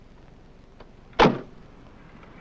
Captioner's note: car door slams